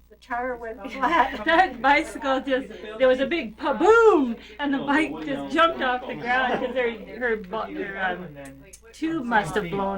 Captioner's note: laughs